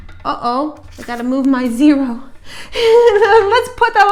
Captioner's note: chuckle